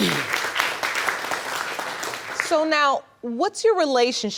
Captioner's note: clears throat; applause